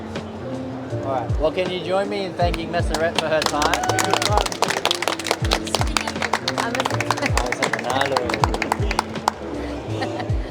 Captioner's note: clapping